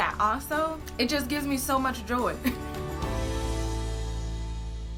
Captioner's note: chuckles; bright upbeat music ends